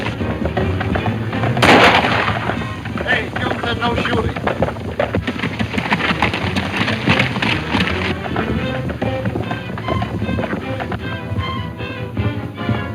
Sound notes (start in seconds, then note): 1.5 gun firing